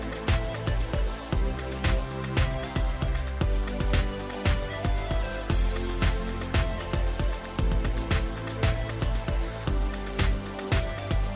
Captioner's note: applause